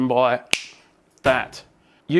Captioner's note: snaps fingers